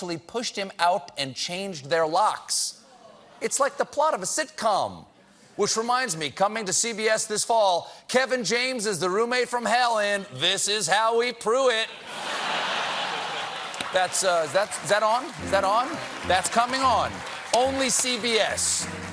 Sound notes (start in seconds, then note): 15.1 laughter